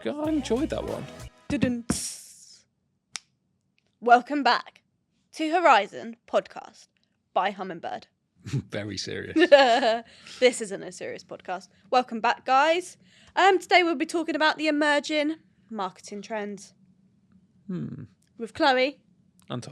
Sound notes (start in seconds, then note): 1.7 imitates drums; 3.1 snaps; 9.2 chuckles